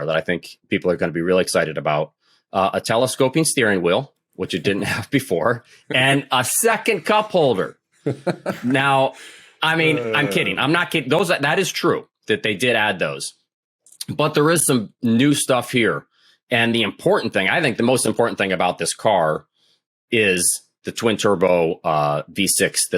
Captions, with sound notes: that I think people are going to be really excited about-- a telescoping steering wheel, which it didn't have before, and a second cup holder. [THEY LAUGH] Now, I mean, I'm kidding-- I'm not kidding. Those, that is true that they did add those. But there is some new stuff here. And the important thing, I think the most important thing about this car is the twin turbo V6